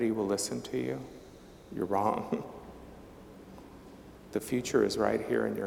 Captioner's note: chuckling